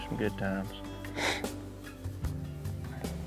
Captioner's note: sniffs